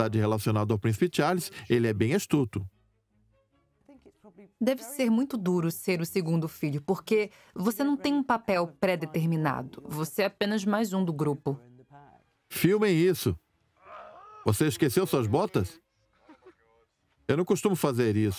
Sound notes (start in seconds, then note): 13.8 William yells; 16.0 laughs